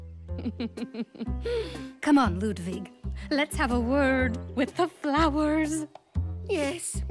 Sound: chuckling

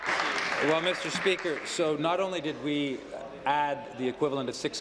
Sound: applause

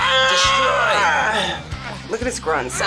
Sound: yells

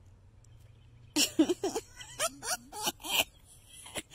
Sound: laughing

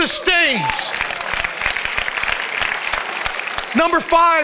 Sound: congregation applauds

